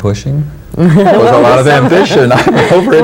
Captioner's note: laughing